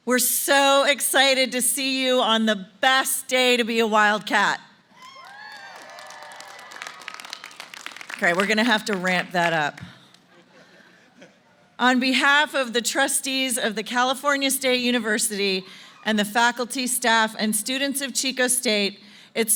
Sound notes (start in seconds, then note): 4.9 cheering; 6.9 applause; 10.2 laughter